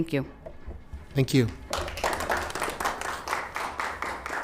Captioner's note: applause